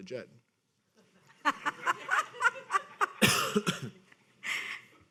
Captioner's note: people laughing